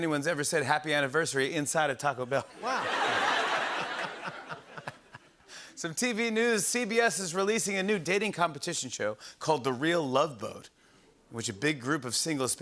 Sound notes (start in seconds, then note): 2.5 laughter